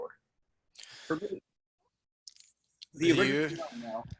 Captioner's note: murmurs